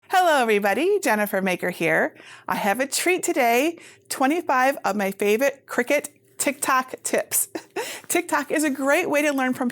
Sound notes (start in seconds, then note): 7.5 chuckles